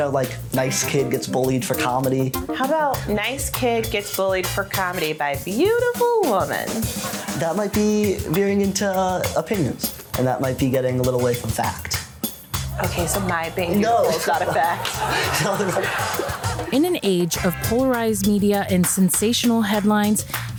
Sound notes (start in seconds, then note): 13.5 both laughing; 14.9 audience laughing